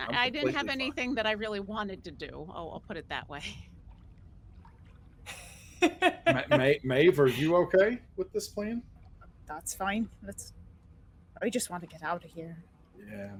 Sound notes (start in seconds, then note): 5.3 laughing